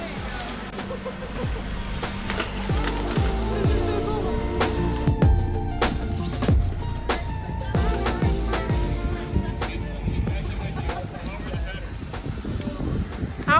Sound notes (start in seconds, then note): 1.6 laughs; 4.9 chill music